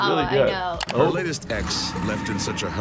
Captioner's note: computer mouse clicks